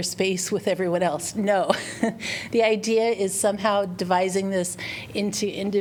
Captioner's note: laughter